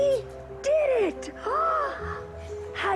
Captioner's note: gasping